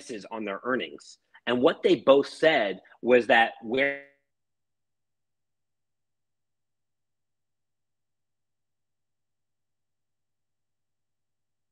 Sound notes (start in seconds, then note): 4.0 audio cuts out